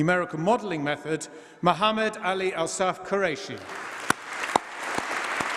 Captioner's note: applause